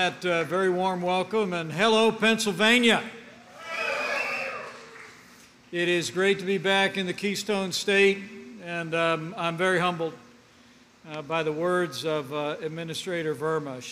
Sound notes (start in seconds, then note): 4.5 applause